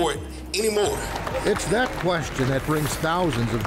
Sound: crowd clapping

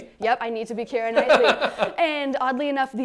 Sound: laughs

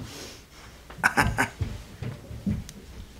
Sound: laughs

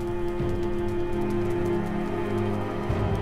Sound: fire crackling, wind howling

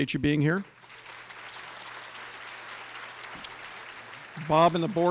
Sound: clapping

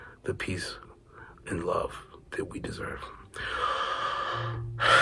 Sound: long sigh

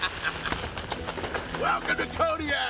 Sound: laughs

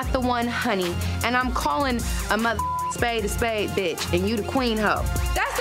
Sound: beep

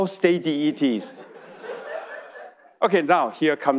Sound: audience laughing

